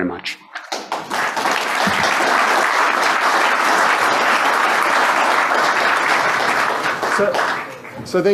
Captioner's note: applause